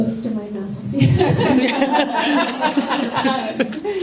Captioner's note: laughter